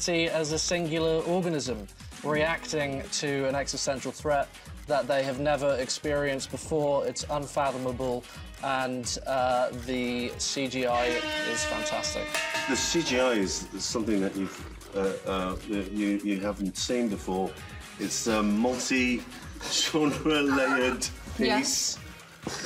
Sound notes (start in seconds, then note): 10.9 buzzer sounds; 10.9 cowbell clangs; 19.6 laughs